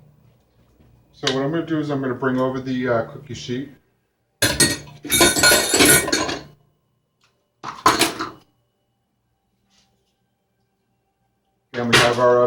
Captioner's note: dish noises